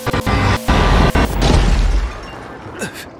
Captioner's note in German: Glas zerspringt; Ächzen